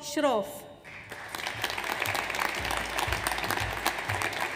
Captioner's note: audience applauds